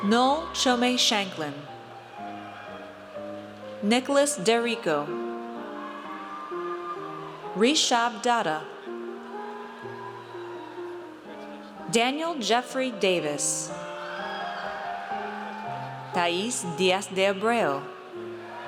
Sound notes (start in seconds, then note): 5.1 audience cheers; 13.7 audience cheers